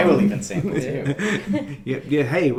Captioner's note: laughing